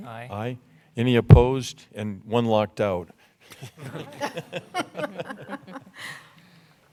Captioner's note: laughter